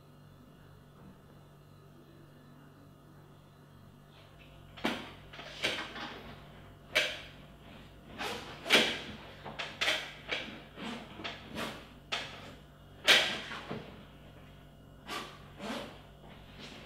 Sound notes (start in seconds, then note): 5.3 chair creaks; 8.2 bag zips